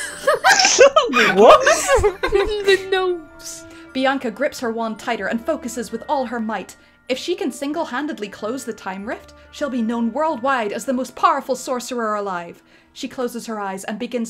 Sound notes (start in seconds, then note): 0.0 laughter